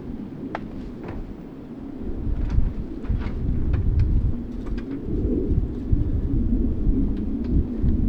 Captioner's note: wind blowing